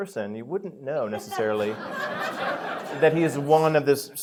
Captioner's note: laughter